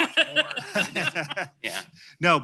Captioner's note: laughter